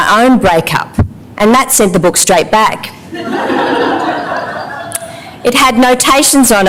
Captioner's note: laughter